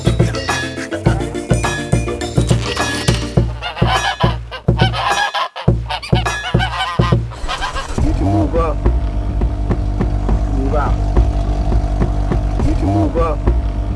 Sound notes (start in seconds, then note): 7.2 car starting